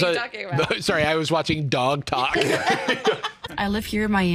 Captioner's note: laugh